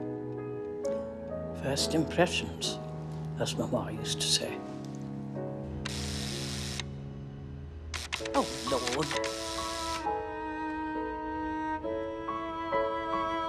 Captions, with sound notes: "First impressions," as Mama used to say. (button buzzing) Oh, Lord! (light orchestral music)